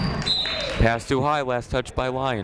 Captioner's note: whistle blows